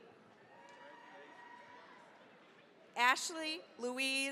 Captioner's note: cheering, applause